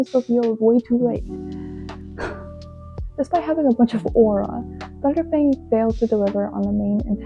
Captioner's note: sigh and crazy eyes